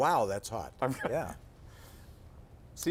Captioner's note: laughter